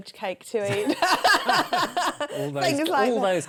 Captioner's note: laughter